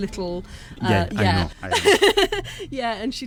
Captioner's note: laughing